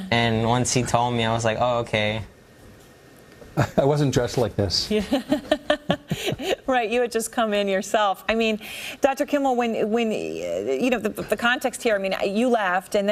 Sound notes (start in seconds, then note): 5.0 laughing